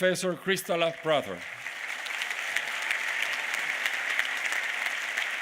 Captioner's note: applause